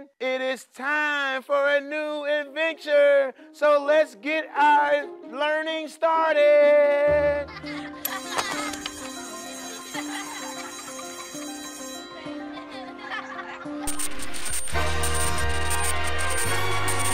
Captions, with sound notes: It is time for a new adventure, so let's get our learning started. (children laughing) (bell ringing) (dramatic music)